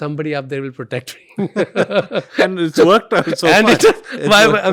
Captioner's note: laughs